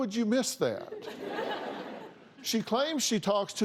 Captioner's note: laughter